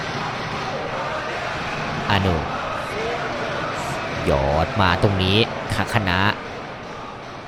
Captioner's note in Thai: ปรบมือ